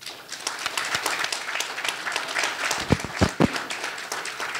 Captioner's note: audience applauding